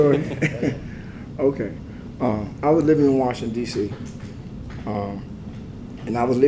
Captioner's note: laugh